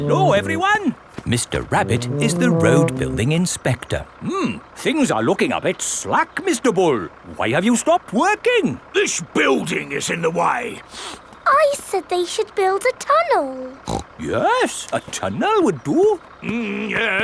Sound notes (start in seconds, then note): 10.8 sniffs; 13.8 snorts